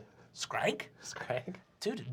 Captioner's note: nasally